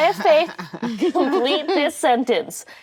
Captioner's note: actresses laughing